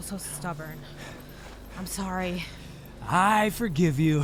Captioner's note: dogs heavily panting